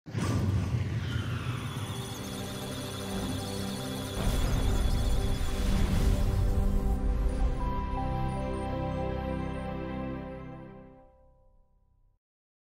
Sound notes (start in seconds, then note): 1.5 electronic Sounds of Data; 1.8 musical Tones